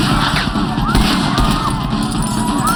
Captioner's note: patrons screaming